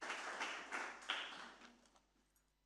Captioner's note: audience applause